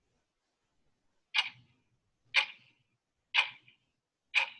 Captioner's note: clock ticking